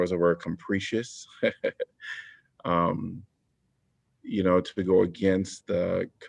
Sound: laughter

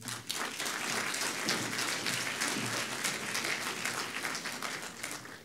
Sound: audience clapping

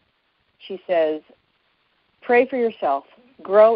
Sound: none

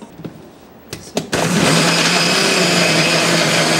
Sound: blender noise

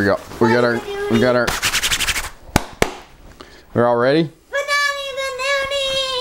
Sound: sound of mitts rubbing together

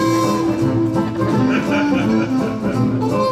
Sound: laughs

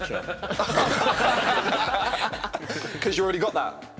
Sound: laughing

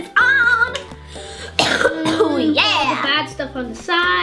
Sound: coughs

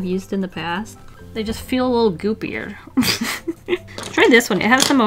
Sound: laughs

